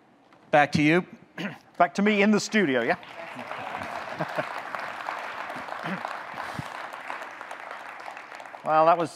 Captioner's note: audience clapping